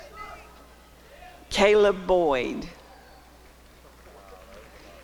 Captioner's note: applause and cheering